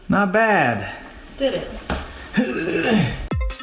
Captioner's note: groans; dance music